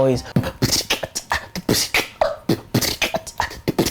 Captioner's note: beatboxing